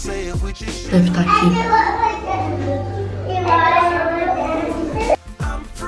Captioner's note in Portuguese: crianças ao fundo